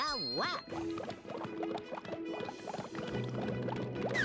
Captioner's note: water bubbling